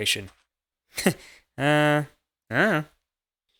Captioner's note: chuckles